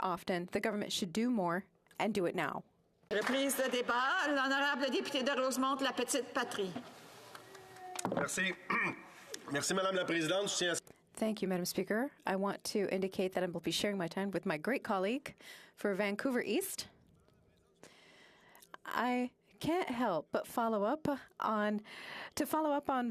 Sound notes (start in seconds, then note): 10.5 speaking French